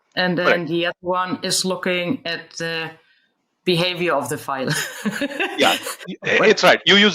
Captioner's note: laughs